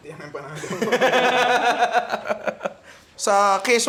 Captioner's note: laughs